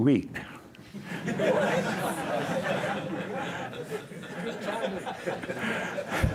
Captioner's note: laughter